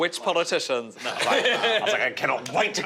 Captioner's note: laughing